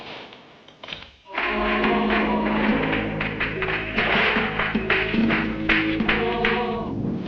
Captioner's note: fireworks popping; reverent music; tense music